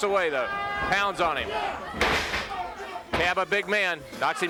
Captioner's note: body thudding